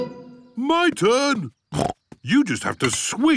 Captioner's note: snorts